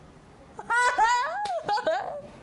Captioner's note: laughing